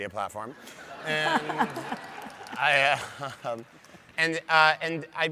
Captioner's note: audience laughs